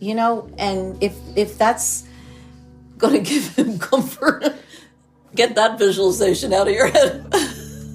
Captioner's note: laughs; both laugh